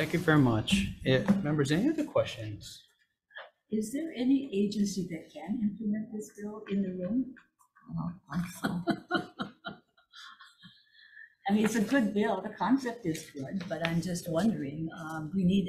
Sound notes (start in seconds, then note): 8.3 laughing